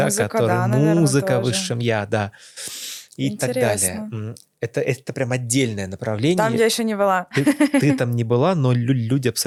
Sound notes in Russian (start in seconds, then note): 7.3 смех